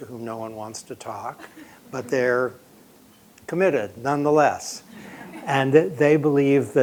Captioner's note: laughter